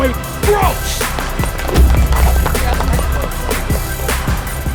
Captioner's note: cheering